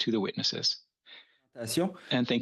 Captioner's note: speaking French